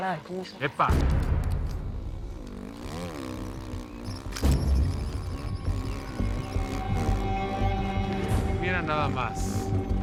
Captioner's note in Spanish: Ruido de motocicleta